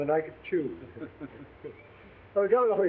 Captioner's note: both chuckling